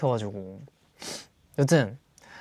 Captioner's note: sniff